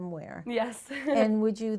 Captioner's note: chuckles